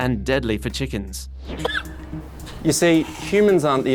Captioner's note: coughs